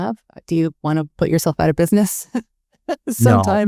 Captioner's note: chuckling